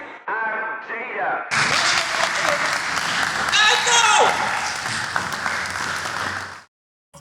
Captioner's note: cheering